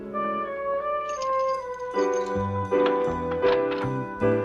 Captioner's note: keys clinking